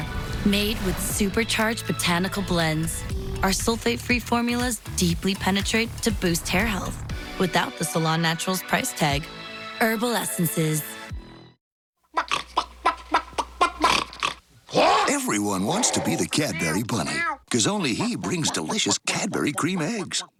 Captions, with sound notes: Made with supercharged botanical blends, our sulfate-free formulas deeply penetrate to boost hair health. Without the salon naturals price tag. Herbal Essences. (Clucks) (Grunts) (Roar) Everyone wants to be the CADBURY Bunny Cuz only he brings delicious CADBURY Crème Eggs